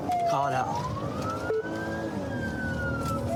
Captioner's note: siren blares